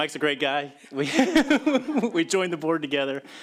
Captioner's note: laughter